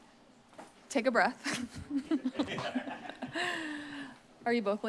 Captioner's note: laughter